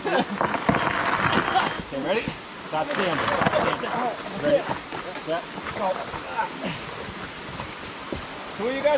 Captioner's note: gravel Sounds; laughter; more laughter; grunting & Gravel Scraping